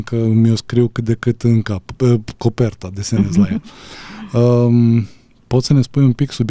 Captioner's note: laughter